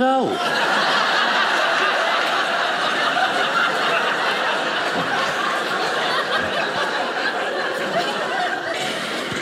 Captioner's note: audience laughing